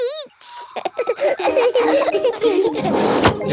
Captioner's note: all laughing